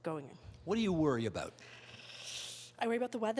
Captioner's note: inhaling sharply